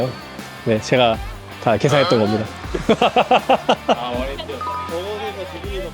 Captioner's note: laughs